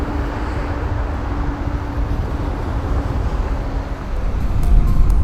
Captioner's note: traffic Noise